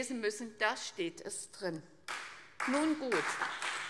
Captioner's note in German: Beifall CDU und BÜNDNIS 90/DIE GRÜNEN